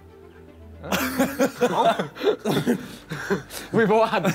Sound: laughing

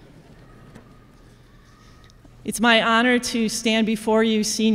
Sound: none

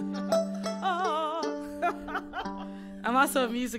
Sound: laughing

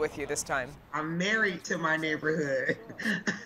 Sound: laughing

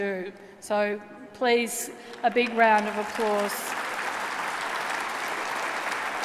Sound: applause

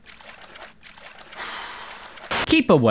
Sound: sigh

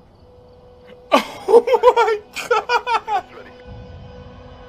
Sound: cackling

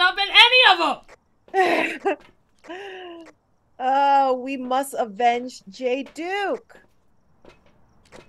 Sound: laugh

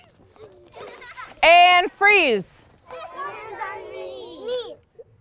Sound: class in unison

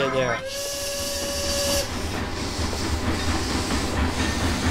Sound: train whistle

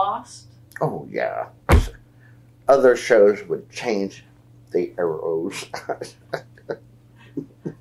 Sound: laughs

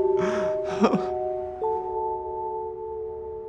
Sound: crying

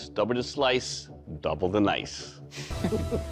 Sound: laughter

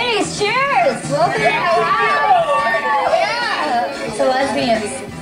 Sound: contestants cheer

